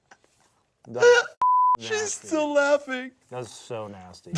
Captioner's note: laughs; beep